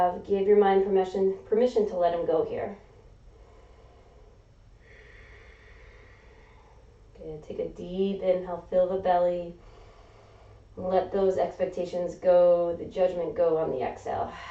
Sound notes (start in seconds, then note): 4.8 exhaling; 4.8 inhaling; 9.6 inhaling